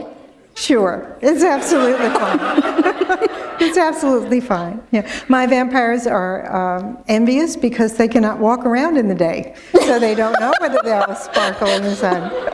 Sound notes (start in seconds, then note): 1.4 laughter